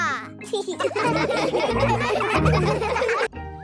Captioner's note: laughing